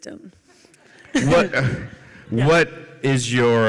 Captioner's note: laughter